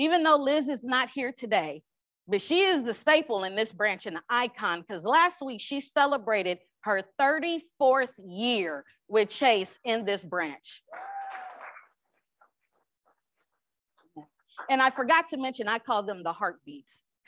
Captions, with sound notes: - Even though Liz is not here today but she is the staple in this branch and the icon because last week she celebrated her 34th year with Chase in this branch. (crowd applauds) - And I forgot to mention, I called them the heartbeats